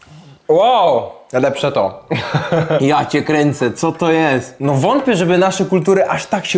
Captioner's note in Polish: śmiech